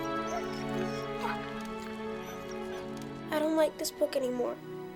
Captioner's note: somber music; Buck whining